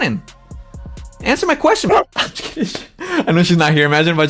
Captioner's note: laughs